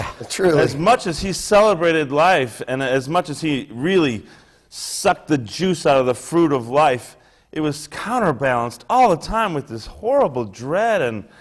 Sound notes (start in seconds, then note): 0.0 laughs